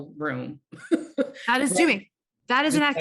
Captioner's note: laughing